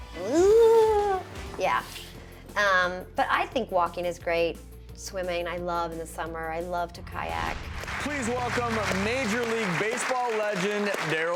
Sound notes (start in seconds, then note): 7.6 swoosh; 7.7 audience applauds